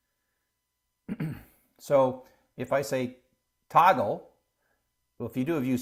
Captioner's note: cough